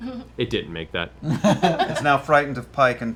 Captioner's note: laughter